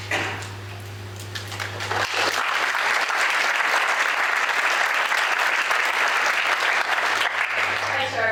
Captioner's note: applause